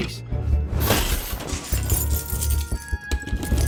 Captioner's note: keys jingling; curious music plays